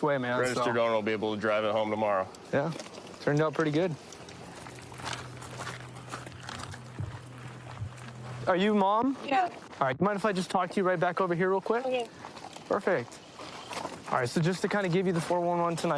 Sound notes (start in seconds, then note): 4.7 footsteps crunching